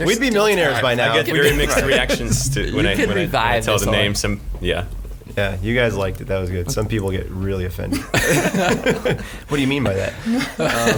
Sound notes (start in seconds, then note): 7.9 laughing